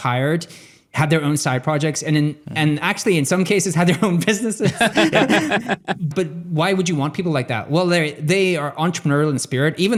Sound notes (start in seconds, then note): 4.6 laughing